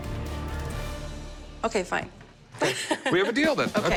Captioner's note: laughs